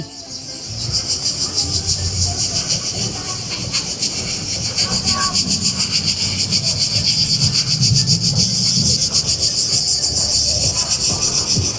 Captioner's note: sound of crickets